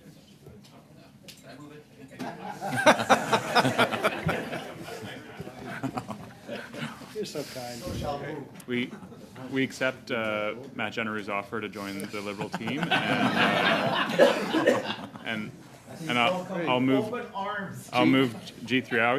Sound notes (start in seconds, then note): 7.1 laughter